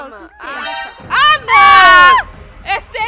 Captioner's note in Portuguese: grita